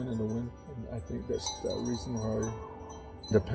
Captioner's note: bells ringing